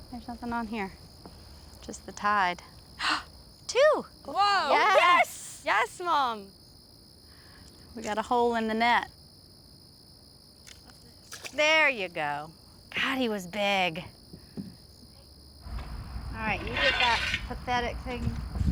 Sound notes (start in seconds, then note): 11.1 water splashes; 14.5 crickets chirping